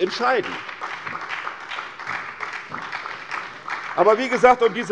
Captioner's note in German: Beifall bei der SPD